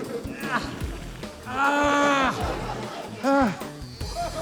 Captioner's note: groans loudly, pants